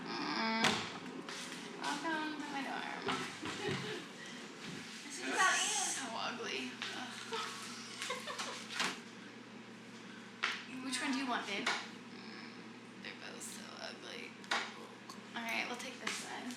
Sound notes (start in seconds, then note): 7.2 laughing